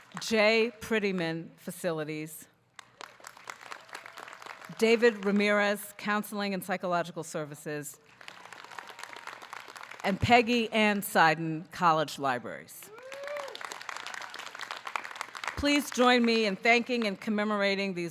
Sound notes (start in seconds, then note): 12.8 audience clapping